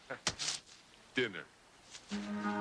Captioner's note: laughing